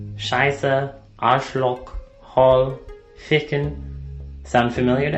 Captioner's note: speaking foreign language